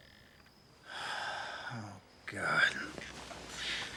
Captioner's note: sighs